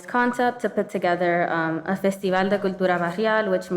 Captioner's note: speaking in foreign language